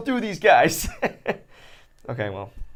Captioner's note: laughs